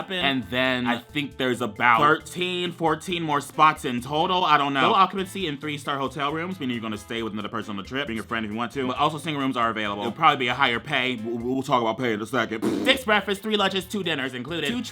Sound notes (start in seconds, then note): 12.6 blows raspberry